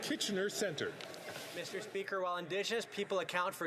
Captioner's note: speaking French